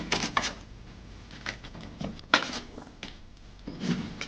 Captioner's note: photos ruffling